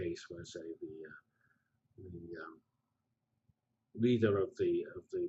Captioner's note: pause